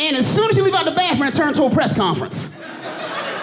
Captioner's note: audience laughing and applauding